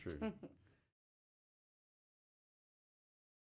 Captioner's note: laughs